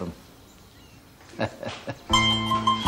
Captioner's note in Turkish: Gülüyor